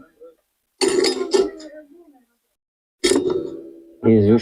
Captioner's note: coughs